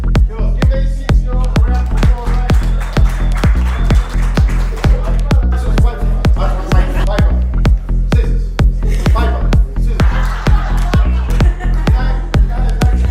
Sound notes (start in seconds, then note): 1.7 applause; 8.7 laughs